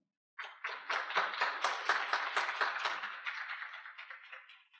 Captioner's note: audience applauding